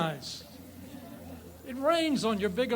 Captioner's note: audience laughs